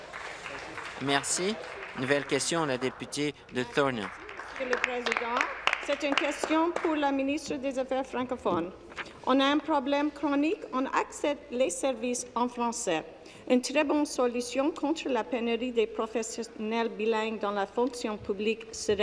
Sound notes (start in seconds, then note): 2.6 applause; 7.1 speaking in French